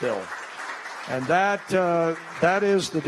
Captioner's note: applause